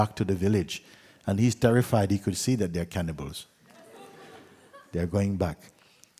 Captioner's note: laughter